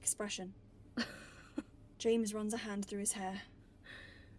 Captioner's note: Regulus laughs